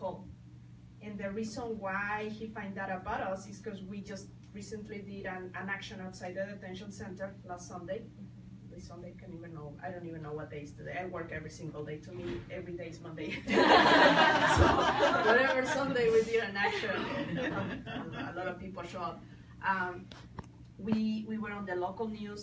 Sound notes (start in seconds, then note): 13.4 people laugh